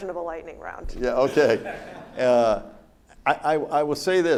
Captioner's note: audience laughs